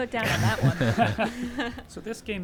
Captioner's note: group chuckling